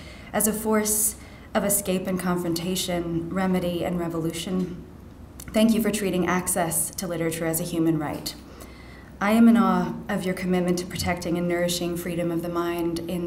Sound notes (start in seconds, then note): none